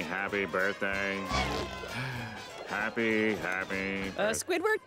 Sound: sighing

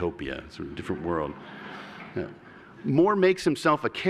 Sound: laughter

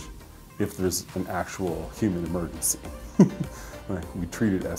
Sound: laughs

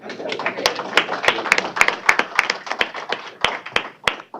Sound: applause

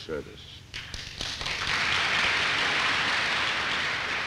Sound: clapping

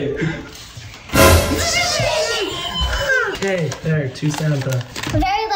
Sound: people exclaiming

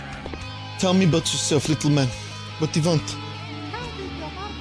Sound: RP voice

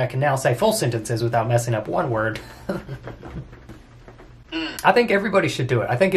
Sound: laughs

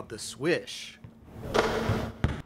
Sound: sound of basketball swish

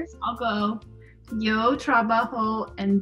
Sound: speaking Spanish

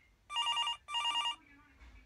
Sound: ring ring

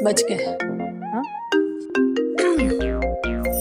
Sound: phone ringing

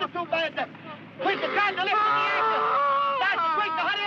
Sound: Mike yelling

